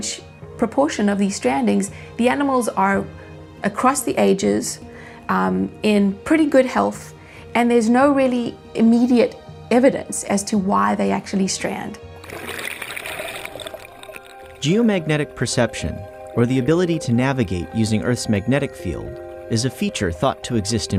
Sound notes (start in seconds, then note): 12.2 water sound